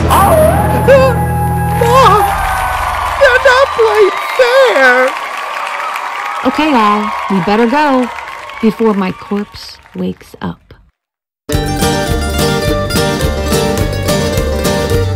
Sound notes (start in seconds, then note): 0.2 coyote howling; 4.5 crowd cheering; 11.5 banjo music playing